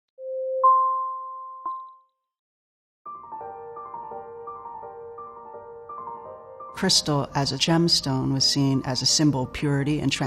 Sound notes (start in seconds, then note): 1.6 dinging; 3.0 soft piano music